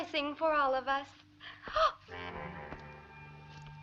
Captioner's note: gasping